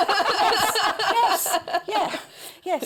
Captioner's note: laughter